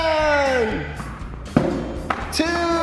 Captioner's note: cheering excitedly; ball bouncing